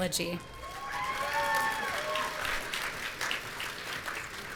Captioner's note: audience cheering